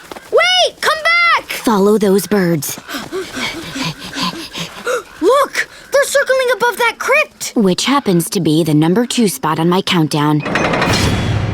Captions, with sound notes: - Wait! Come back! - Follow those birds. [breathing heavily] Look! They're circling above that crypt! Which happens to be the number two spot on my countdown.